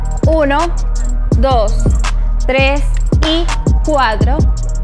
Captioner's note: clap